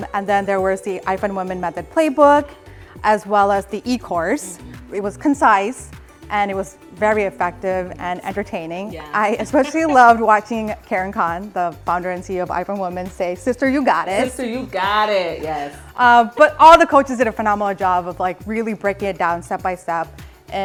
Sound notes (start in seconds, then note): 9.1 laughs